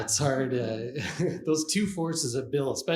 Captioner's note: Eckhart Tolle and questioner chuckle